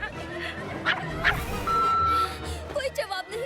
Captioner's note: Cloudpuff barking; phone beeping